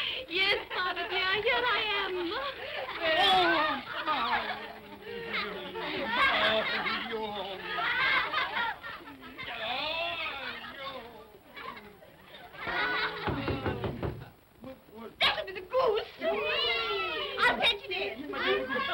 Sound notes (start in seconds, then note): 3.6 children giggle; 6.8 children laugh; 11.0 children laugh; 13.2 knocking on door; 16.1 vocal sounds of delight